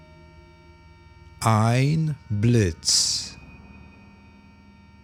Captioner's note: german